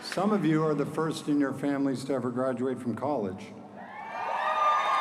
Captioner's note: applause